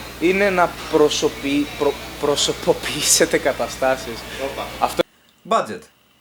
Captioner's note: laughter